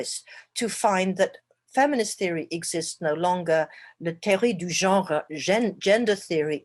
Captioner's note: speaking french